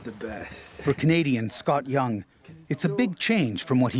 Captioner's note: voiceover